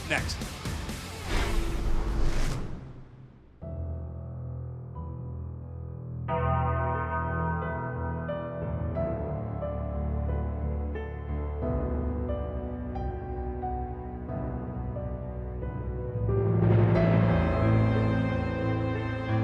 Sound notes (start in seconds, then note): 7.3 bell tolls